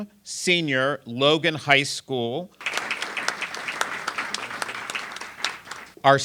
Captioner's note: applause